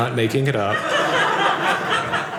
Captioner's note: audience laughing